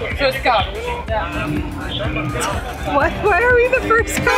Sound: announcer speaking in Italian

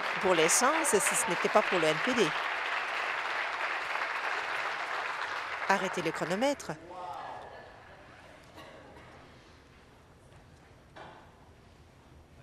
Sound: applause

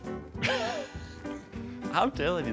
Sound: laughs

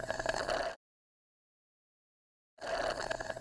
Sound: awkward Silence

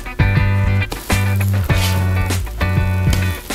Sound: sizzling

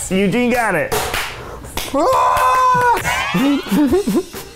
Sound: clamoring and laughter

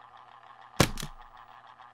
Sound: telephone hangs

